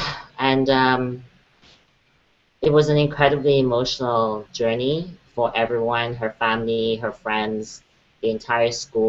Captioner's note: breahthes